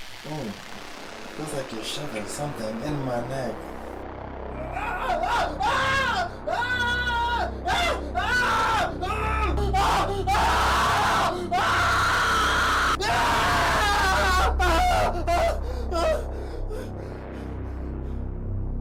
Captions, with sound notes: Oh. It feels like you're shoving something in my neck. Ah! (Screams out in pain) (Lets out a final few gasps)